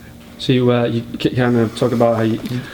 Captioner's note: voiceover